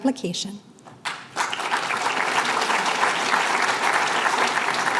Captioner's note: applause